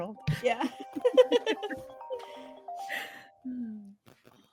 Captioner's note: phone ringing